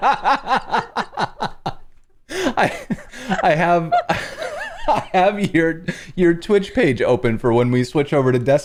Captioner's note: laughter